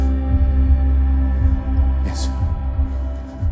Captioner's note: heart beating